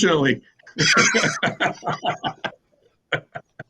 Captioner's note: laughs